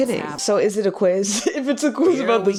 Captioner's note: laughs